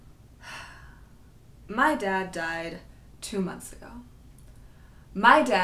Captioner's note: sighs